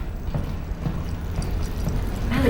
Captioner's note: footsteps